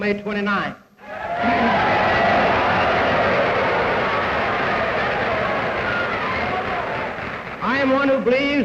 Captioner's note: cheers, applause